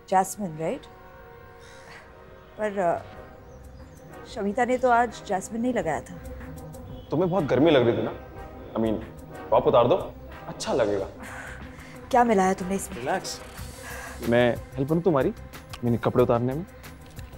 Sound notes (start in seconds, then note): 13.4 exhales